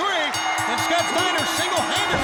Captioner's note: bell ringing